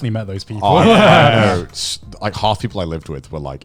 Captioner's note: laughing